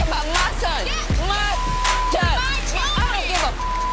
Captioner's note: people yelling at once; beep